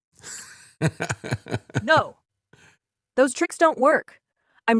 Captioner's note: laughing